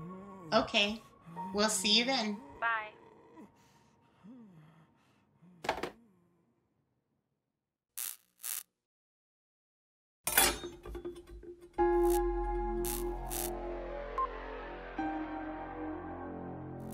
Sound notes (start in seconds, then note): 8.0 electricity crackling; 10.2 knife rattling; 11.7 somber music; 12.8 electricity crackling